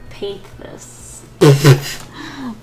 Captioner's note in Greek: Γέλια